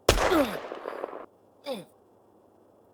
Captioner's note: gunshots; grunts